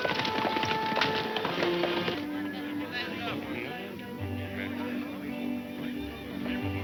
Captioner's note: group chattering; light folksy music